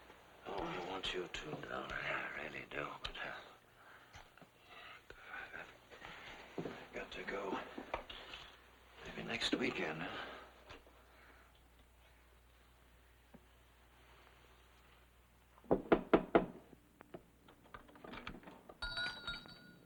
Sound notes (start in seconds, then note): 15.6 door knocking